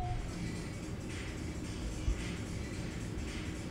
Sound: distant radio playing

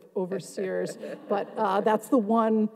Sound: audience and panelists chuckling

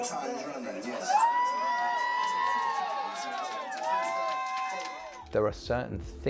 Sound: crowd laughter and cheer

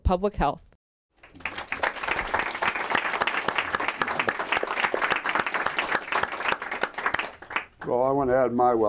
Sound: applause

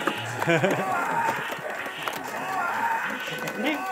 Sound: laughs

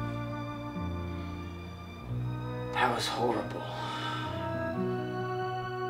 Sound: sighs

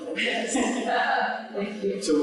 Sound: laughter

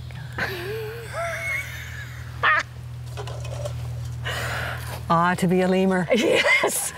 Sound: laughs

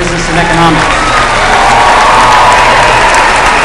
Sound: applause

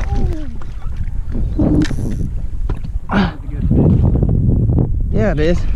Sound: wind blowing loudly

